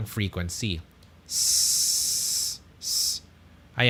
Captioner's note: hissing sounds